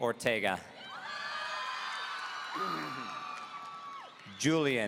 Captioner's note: audience cheering